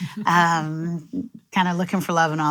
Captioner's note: laughs